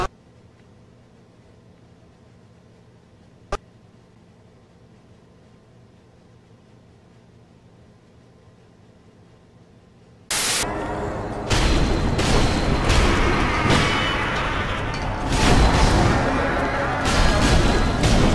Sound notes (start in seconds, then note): 10.3 static; 10.7 ominous, supernatural screaming